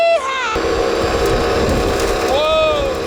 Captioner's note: motor running